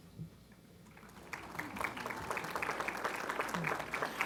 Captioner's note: applause